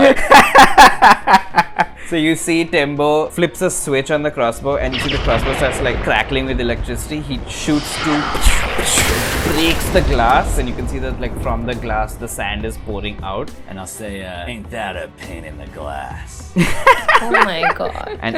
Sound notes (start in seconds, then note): 0.0 laughter; 8.8 pew! pew!; 16.5 laughter